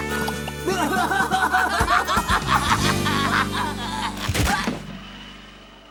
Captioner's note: both laughing